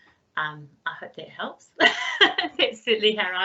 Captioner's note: laughs